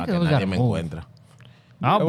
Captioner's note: speaking In Foreign Language